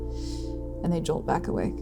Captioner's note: inhaling sharply